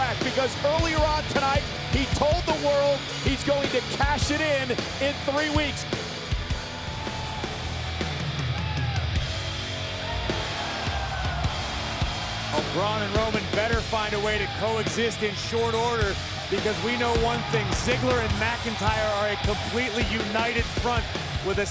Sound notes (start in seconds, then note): 10.9 audience cheers